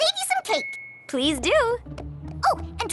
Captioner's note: tink!